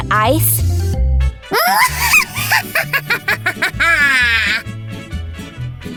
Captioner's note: maniac laugh